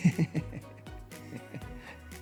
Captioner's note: laughs